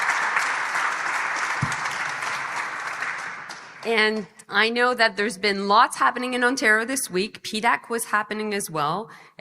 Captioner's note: applause